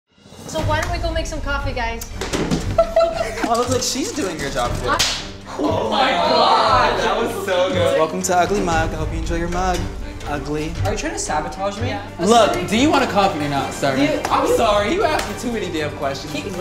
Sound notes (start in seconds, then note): 2.6 laugh; 5.0 smack